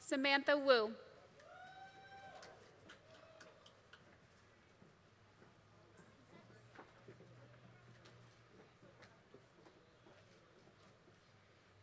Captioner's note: applause